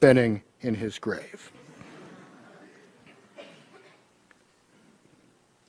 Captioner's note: laughter